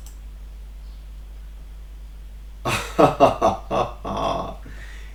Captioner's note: laughs